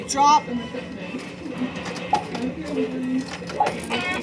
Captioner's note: inserting quarters in machine